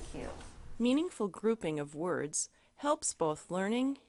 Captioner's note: voiceover